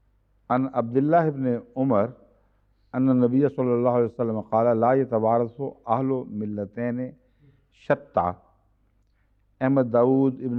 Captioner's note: Arabic